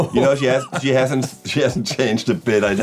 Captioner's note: laughs